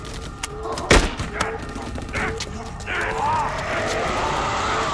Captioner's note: man and vampire grunting; vampire growls